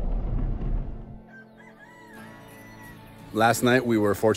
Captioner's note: rooster crows